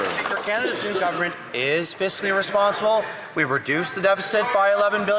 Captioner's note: applause